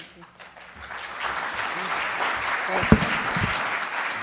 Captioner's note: audience Applauding